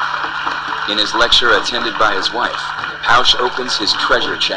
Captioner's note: voiceover